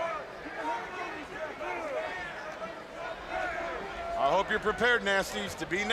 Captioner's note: crowd chatter